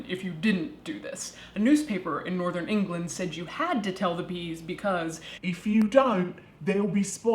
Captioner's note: imitating British accent